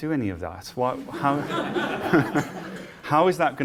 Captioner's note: laughter